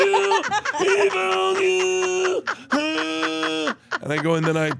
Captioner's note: laugh; Bert wheezing